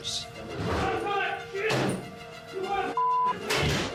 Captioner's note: shouting and thudding